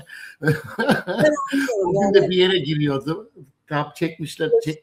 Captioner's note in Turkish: kahkaha